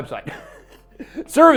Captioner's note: chuckles